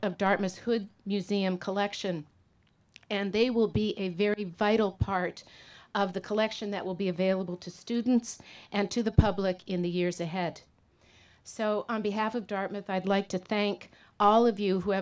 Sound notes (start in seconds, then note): none